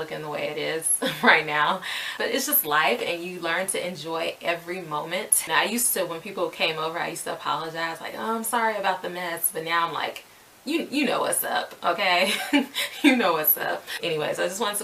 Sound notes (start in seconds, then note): 12.2 laughs